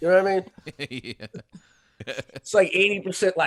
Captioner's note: laughing